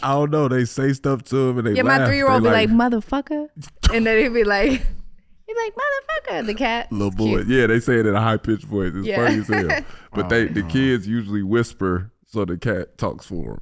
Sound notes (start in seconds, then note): 4.1 Iman laughing